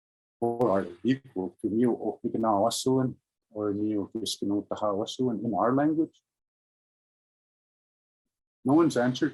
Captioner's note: speaking in Indigenous language